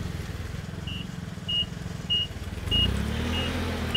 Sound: beeping

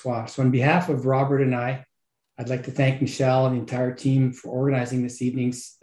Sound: French speaking

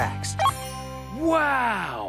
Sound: beep

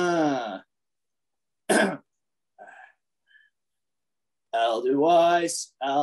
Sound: clears throat

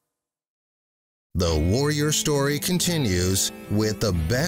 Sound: voiceover

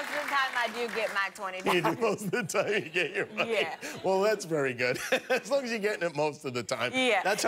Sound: laughter

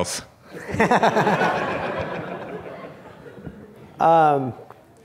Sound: laughter

